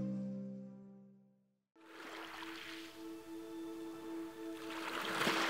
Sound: waves gently crashing on shore

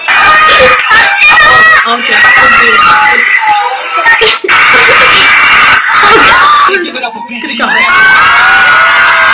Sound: laughs

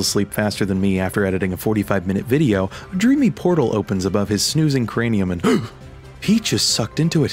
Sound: gasp

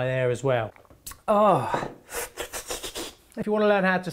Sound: exhales

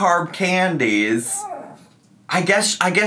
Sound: grumbles

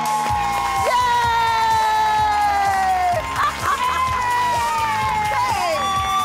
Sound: audience applauding; laughing

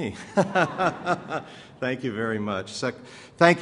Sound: laughter

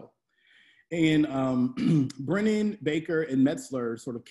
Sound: clears throat

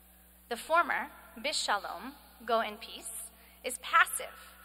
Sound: speaking hebrew

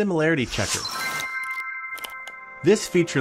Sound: bright chime sound

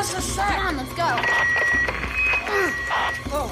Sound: radio whining

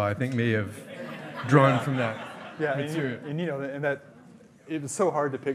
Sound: hearty laughing

